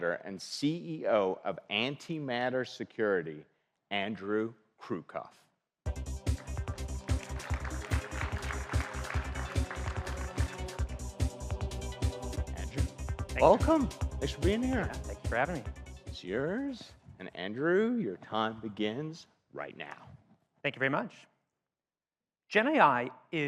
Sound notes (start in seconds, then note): 5.9 driving electronic music; 6.3 audience applauds